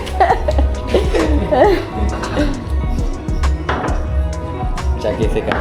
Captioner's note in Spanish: risas